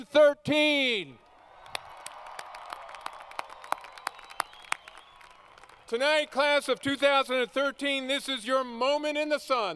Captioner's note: applause